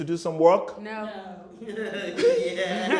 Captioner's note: laughter